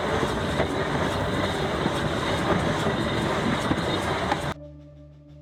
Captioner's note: train gears turning